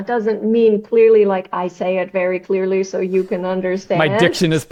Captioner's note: laughs